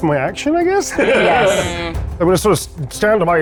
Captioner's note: laughs